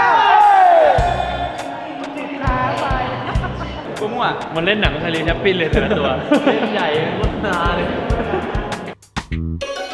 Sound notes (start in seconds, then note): 5.7 laughs